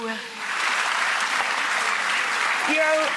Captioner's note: audience claps